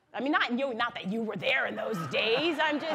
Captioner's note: laughter